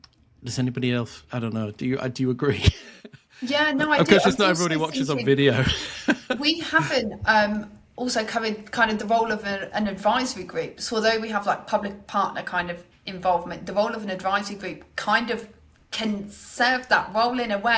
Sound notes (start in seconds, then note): 2.5 chuckles; 4.8 chuckles